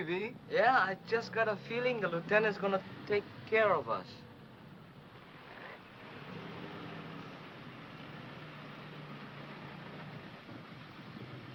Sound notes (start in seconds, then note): 5.0 vehicle approaching